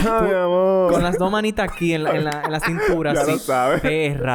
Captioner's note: laughs